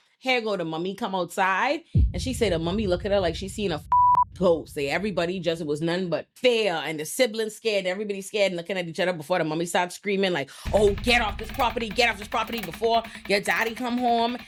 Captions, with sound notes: hair go to mommy come outside. And she said to mommy, look at her like she's seeing a (beep) ghost. Say everybody just, it was none but fear. And the siblings scared, everybody's scared and looking at each other before the mommy starts screaming like, Oh, get off this property. Get off this property before your daddy come home.